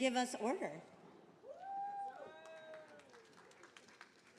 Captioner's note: attendees applauding